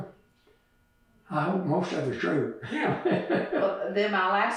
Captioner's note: laughs